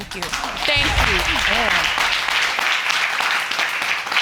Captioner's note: audience clapping